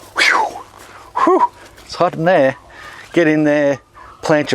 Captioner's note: exhales